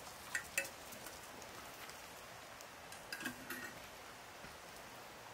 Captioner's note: kettle clinking